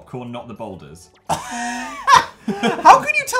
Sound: huge laugh

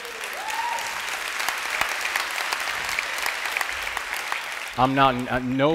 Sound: cheers and applause

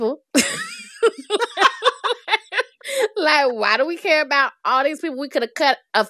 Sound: laughter

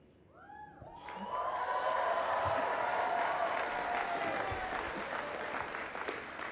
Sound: applause

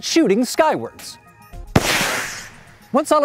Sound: firework blasts off

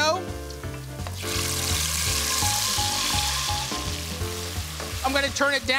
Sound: sizzling

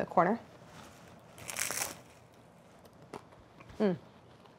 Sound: tart crunching

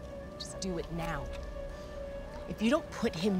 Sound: none

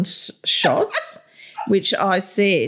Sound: laughter

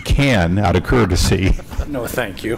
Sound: laughter

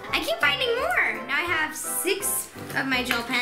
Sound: none

